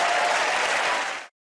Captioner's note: cheers and applause